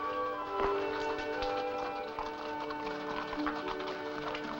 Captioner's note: rock clattering